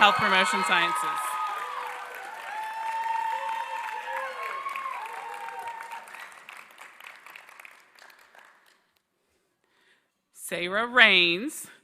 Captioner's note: applause